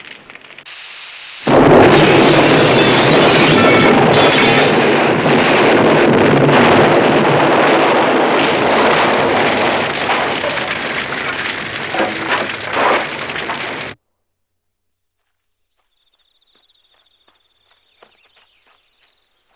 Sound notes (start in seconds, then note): 1.5 explosion booming; 10.1 fire crackling; 15.4 birds chirping